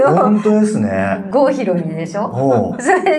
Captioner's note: laughs